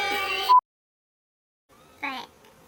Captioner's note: beep